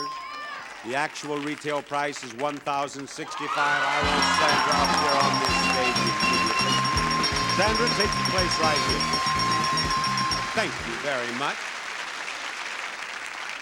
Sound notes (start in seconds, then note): 3.5 cheering; 11.9 audience clapping